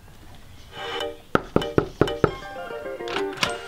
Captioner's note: bright music; knocking; door opening